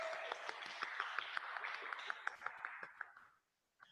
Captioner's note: audience clapping